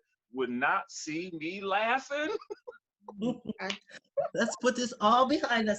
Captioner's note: laughs